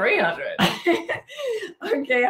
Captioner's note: laughing